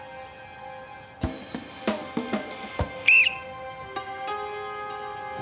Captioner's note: blows whistle